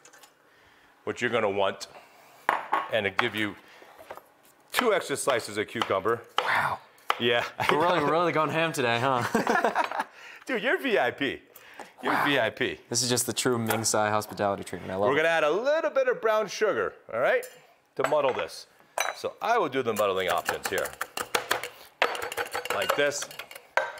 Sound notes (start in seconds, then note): 9.6 laughs